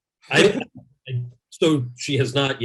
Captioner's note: laughs